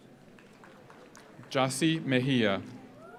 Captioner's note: audience applauds